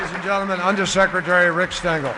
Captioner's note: applause